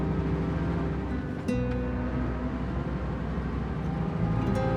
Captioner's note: bus engine whines